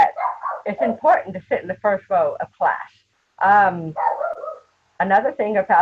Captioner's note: dogs Barking